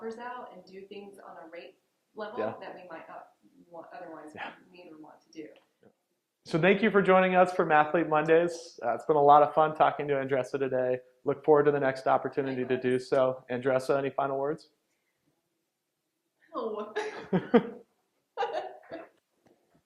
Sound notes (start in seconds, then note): 16.8 laughing